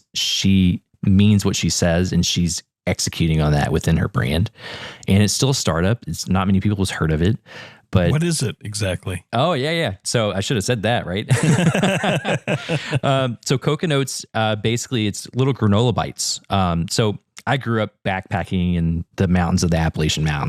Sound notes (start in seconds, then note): 11.3 laugh